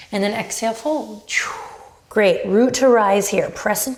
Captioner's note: whooshes